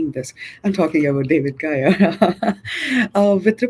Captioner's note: chuckles